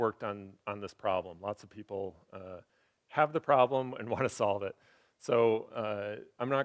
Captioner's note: laughs